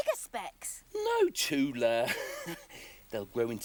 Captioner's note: chuckling